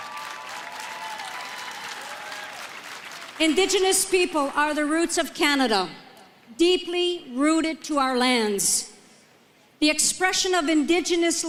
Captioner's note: applause